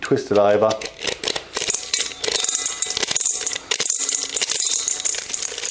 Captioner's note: corn kernels rattling